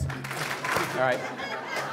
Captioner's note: attendees clap